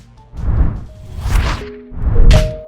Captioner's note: whoosh